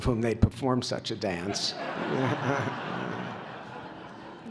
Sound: laughter

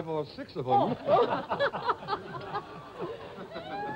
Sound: laughter

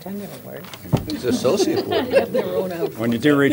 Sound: laughter

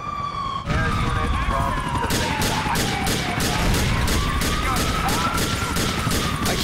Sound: sirens, bullets firing, explosions

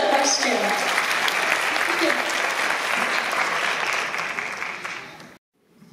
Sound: applause

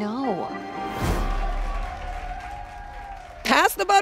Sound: audience cheers

